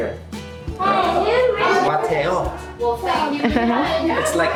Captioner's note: classroom chatter